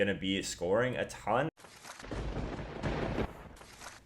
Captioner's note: paper ripping; lightening and thunder; paper ripping